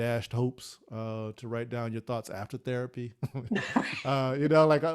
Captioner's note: laughs